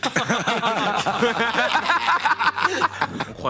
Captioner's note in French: rires